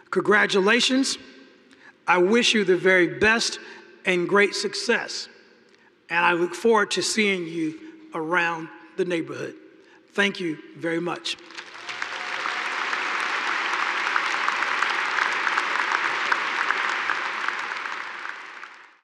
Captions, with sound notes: Congratulations, I wish you the very best and great success, and I look forward to seeing you around the neighborhood. Thank you very much. (audience cheering and applauding)